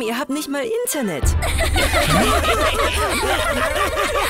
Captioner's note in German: Lachen